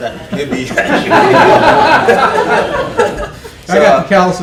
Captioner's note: laughter